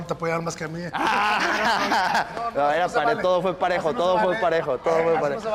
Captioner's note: laugh